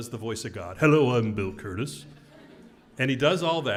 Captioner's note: laugh